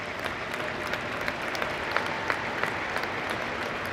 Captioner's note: applause